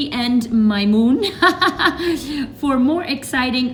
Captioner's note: laughs